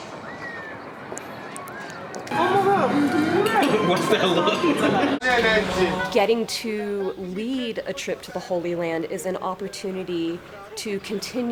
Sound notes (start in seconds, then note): 3.0 people talking at dinner